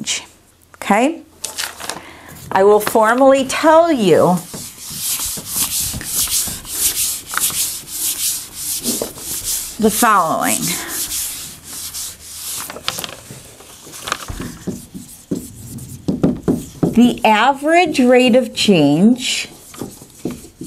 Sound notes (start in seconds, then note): 4.0 sounds of marker writing; 12.6 sounds of erasing and writing; 19.6 sounds of writing